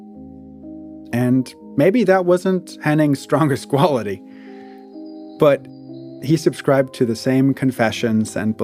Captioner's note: laughingly